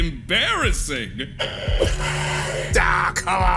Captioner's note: angry kitty noises